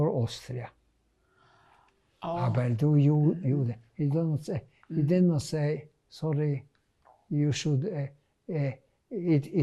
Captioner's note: german